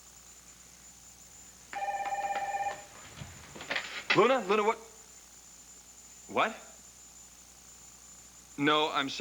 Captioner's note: telephone rings